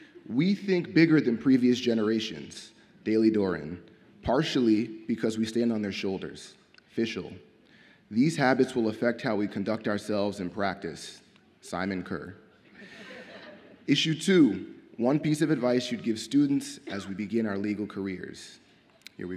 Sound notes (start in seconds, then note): 12.7 audience laughs